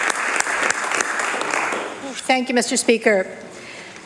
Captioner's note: applause